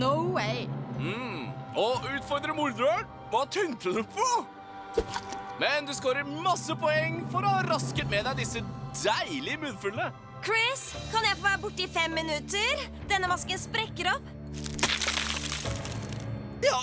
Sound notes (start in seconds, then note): none